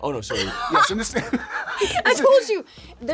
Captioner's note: laughing